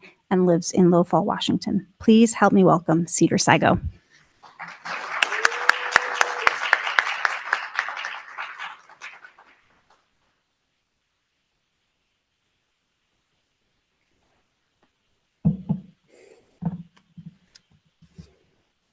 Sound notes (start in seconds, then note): 4.5 audience cheering